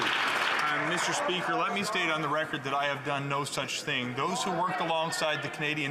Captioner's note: some Applause